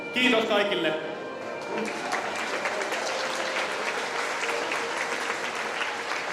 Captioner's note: applause